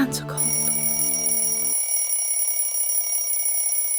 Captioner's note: alarm bell rings